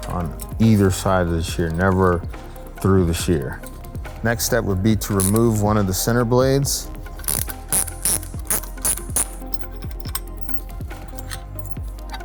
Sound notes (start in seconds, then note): 6.8 ratcheting; 9.4 ambient music